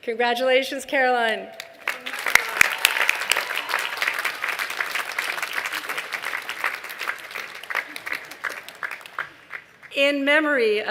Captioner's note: applause